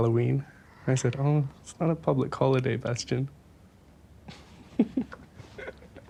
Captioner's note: laughs